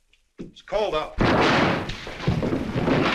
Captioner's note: gunshot